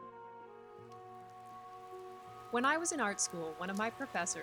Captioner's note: rain sounds in background